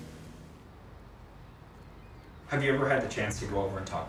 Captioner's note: boat motor humming; waves faintly crashing